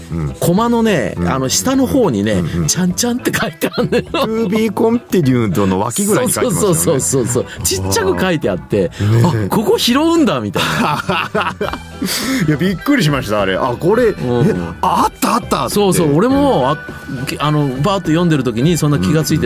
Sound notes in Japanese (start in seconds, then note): 4.0 笑い; 11.2 笑い